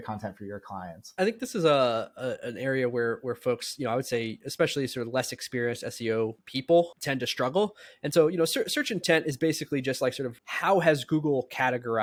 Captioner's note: speaking